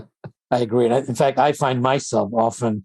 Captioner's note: laughs